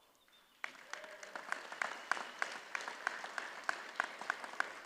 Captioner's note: audience applauds